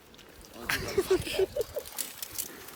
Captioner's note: laughs